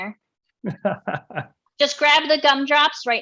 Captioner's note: laughing